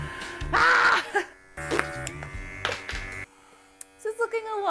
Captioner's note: screaming